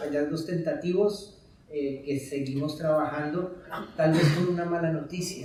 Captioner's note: speaking in Spanish